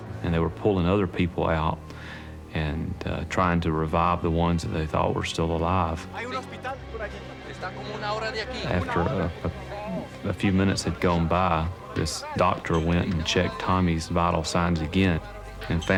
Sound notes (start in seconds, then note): 6.5 speaking spanish